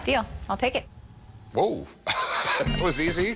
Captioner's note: laughs